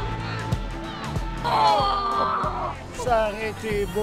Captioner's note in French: Cris de déception